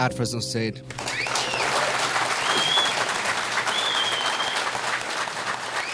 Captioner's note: crowd applauding and cheering